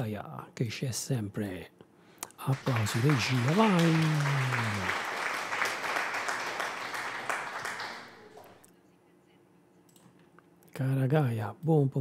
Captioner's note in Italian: Applauso